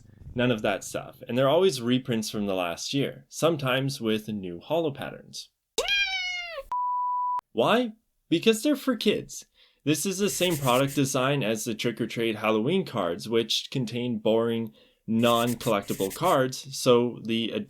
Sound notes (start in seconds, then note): 5.8 meowwww